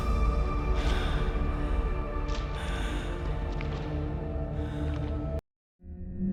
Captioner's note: ominous music; labored breathing